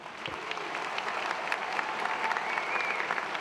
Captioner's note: applause